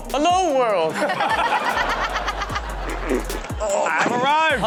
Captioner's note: hosts and audience laugh